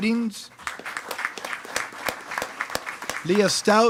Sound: attendees clapping

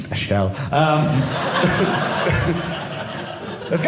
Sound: audience laughing

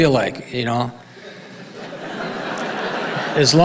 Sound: audience laughing

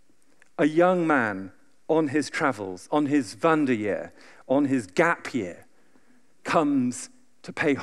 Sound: german

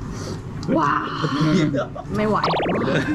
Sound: laughing

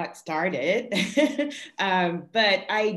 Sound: laughing

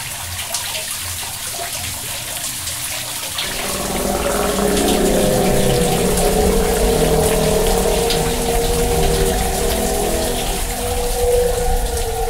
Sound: non-Diegetic Audio: Whale Vocals

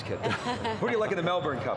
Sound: laughter

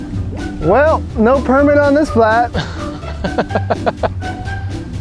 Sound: chuckles

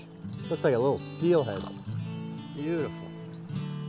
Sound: water splashes

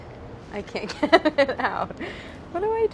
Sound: laughs

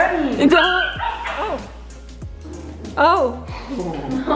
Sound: dog barks; giggles

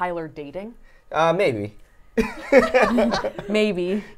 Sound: chuckles; laughs

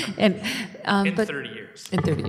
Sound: laughter

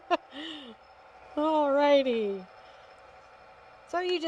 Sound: laughs

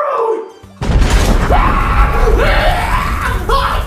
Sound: Doofy screams

